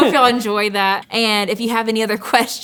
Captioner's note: laughing